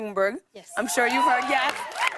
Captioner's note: cheers and applause